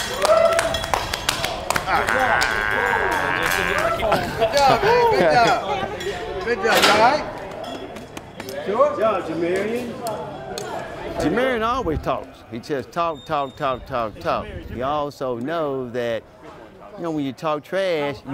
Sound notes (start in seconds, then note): 0.0 clapping; 1.8 groans